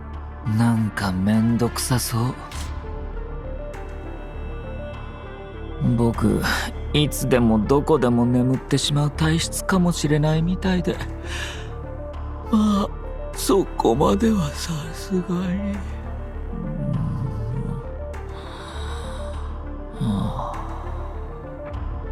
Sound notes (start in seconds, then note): 14.7 snoozes